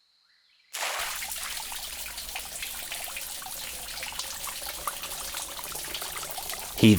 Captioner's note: water splashing